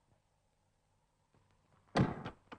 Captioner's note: door slams shut